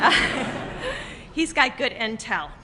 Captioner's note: laughter